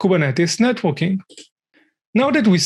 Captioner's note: mouse clicking